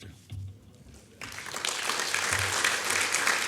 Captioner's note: applause